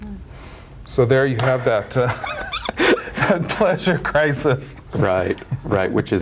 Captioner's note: laughs